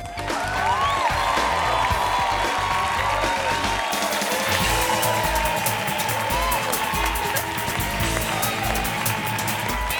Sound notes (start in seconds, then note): 0.1 audience cheering; 0.2 upbeat music; 4.1 audience cheering continues; 4.1 upbeat music